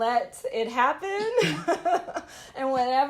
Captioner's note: laughter